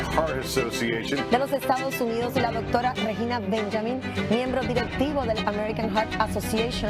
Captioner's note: reporter speaking in a foreign language